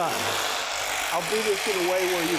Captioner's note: saw whirring